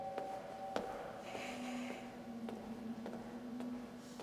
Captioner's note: heels clanking